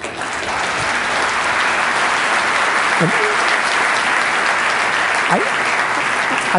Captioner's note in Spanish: Aplausos